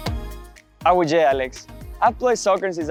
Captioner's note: upbeat music; speaking Spanish